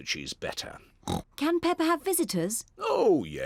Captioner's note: oinks